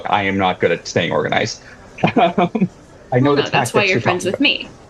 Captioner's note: laugh